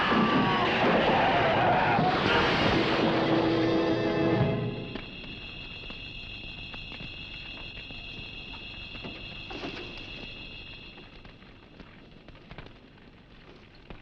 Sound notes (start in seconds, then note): 4.0 dramatic music; 5.6 fire crackling